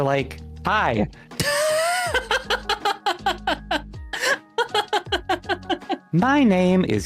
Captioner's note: laughs